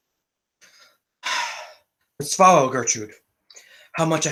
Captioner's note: deeply sighing